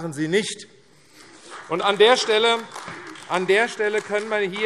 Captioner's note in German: Beifall AfD